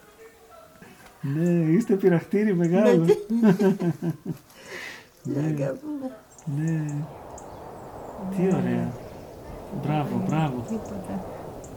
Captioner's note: laughing